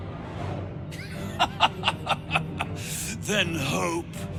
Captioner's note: laughing